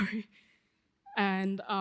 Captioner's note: chuckles